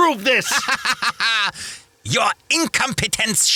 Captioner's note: laughs germanically